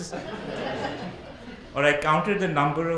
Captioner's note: audience laughs